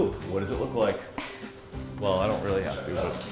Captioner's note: laughter